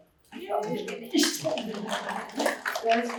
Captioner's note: applause